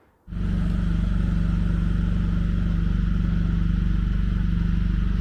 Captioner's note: forklift engine running